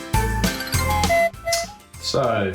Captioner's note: horn toots